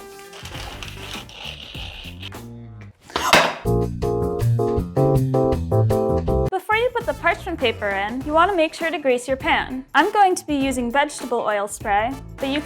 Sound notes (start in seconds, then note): 0.0 paper crinkles; 3.1 oil spray clattering; 3.2 jazz pop music plays